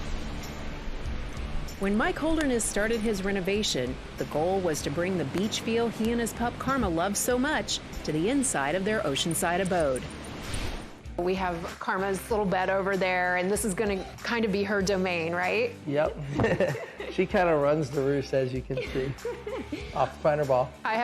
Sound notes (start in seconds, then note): 16.2 laughs